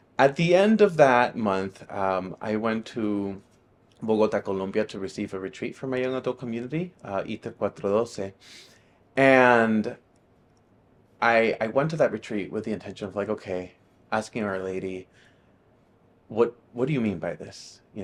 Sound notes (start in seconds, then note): 7.5 speaking in a foreign language